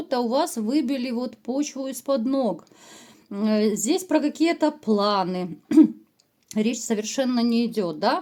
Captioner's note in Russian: откашливается